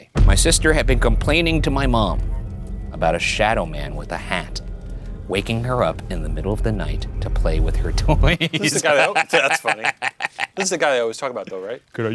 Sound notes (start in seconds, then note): 8.4 laughing